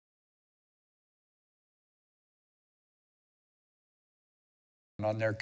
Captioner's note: silence